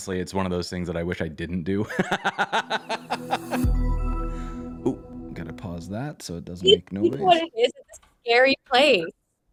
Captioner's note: laughter